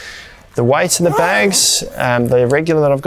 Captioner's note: zipper does up